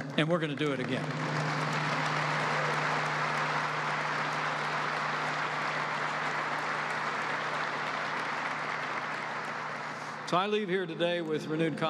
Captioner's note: applause